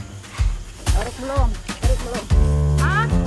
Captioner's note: in foreign language